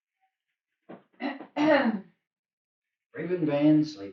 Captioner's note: Raven clears throat